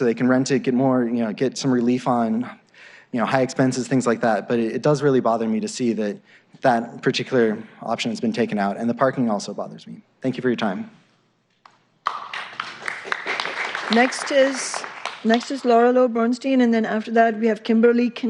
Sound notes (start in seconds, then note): 9.1 applause